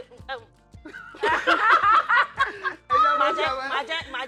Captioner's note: everyone laughs